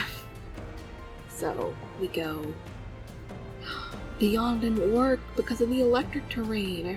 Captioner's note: gasps